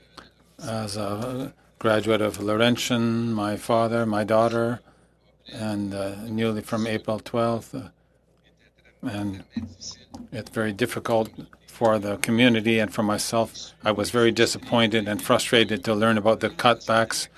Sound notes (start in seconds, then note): 9.0 speaking French